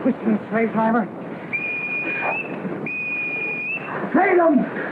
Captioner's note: whistle